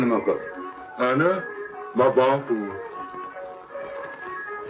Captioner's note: speaking foreign language